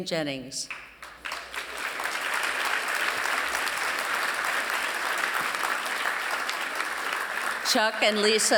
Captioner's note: applause